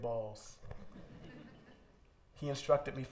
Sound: laughter

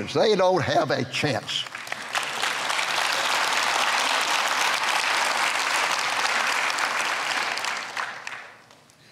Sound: clapping

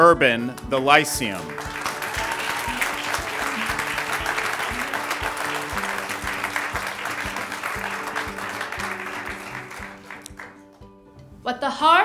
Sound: ^applause^

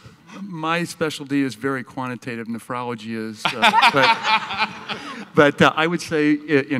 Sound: laughs

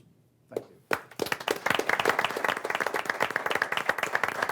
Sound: group applauding

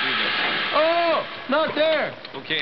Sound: gas hissing

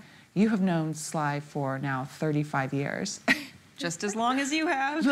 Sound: laughing

